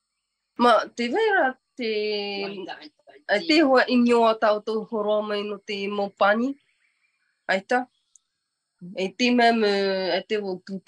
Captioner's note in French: et sa mère parlent paumotu